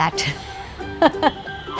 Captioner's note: laughs